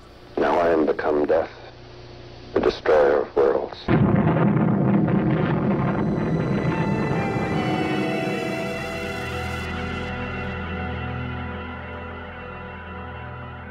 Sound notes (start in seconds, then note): 3.8 atomic bomb booming; 6.8 dramatic music